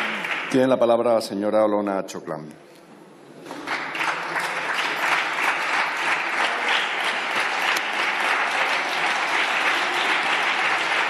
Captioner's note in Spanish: Aplausos